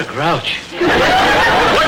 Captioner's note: audience laughter